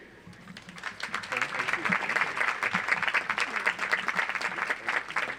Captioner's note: audience applauds